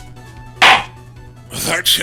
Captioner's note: gavel slams!